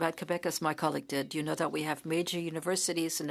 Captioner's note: speaking French